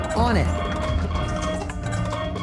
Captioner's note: alarm sounding